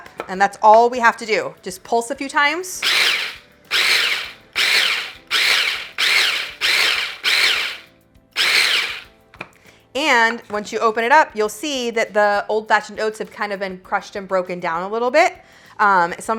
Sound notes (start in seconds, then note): 3.6 food processor whirring